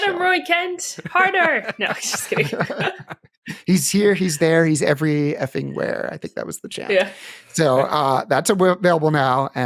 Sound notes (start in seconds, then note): 2.5 laughter